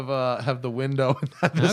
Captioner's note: laughter